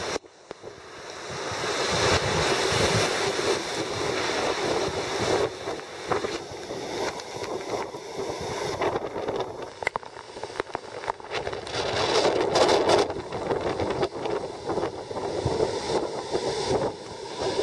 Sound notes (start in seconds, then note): none